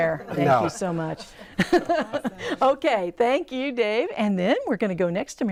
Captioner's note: laughing